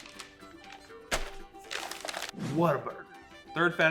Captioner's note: bag crinkling